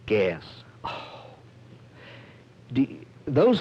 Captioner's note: sighs